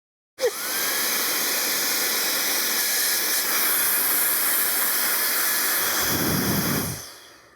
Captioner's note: blower whirring